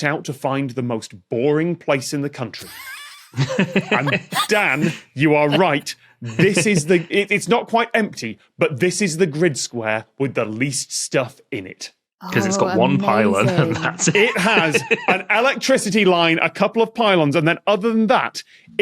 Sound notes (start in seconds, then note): 2.6 guests laughing